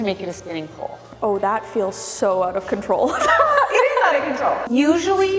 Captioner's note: laughing